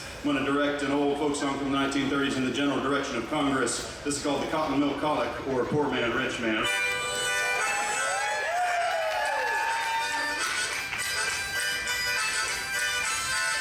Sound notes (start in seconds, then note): 7.4 audience cheers; 9.6 bright harmonica music